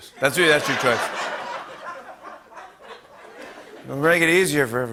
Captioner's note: laughter